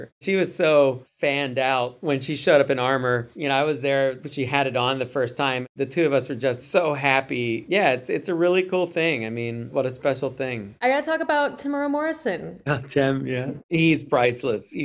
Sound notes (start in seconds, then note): none